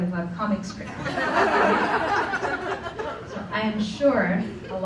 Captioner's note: laughter